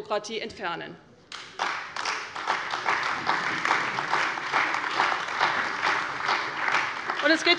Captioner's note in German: Allgemeiner Beifall